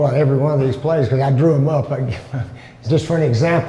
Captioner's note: chuckles